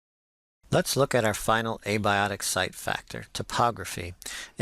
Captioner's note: voiceover